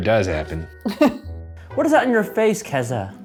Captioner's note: laughs